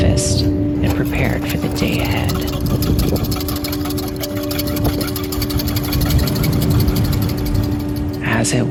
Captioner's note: vigorus whisking sounds